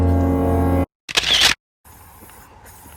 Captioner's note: camera shutter